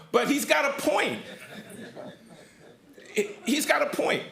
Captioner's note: laughter